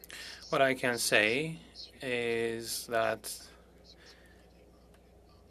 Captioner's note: speaking French